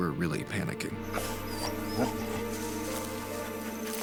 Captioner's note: dog panting